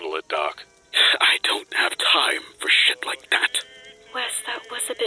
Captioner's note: scoff